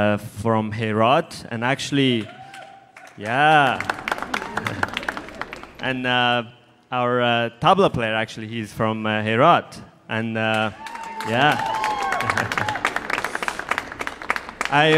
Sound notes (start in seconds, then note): 4.1 audience applauding; 10.6 audience cheering